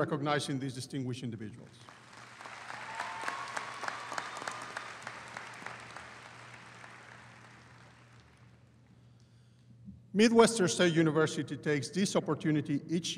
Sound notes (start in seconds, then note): 1.8 audience applauding